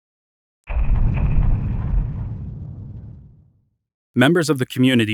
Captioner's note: thumping